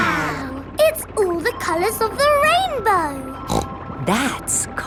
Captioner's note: snorts